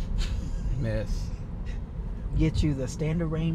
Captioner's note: laughs